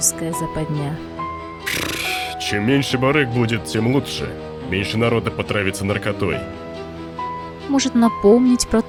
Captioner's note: snorts